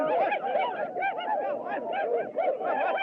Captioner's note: whooping